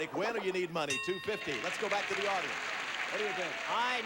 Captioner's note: audience applauding